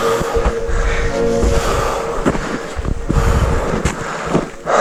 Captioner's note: both loudly breathing; footsteps plodding